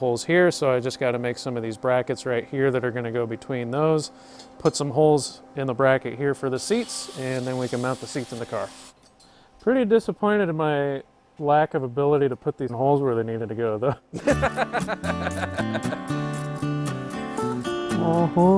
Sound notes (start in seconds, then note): 14.2 laughs